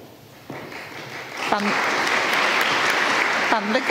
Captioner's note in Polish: oklaski